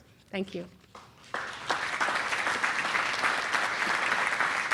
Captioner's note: applause